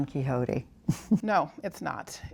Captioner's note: laughter